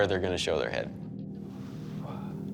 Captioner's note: exhales